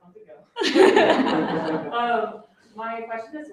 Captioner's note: laughter